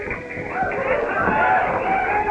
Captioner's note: cheering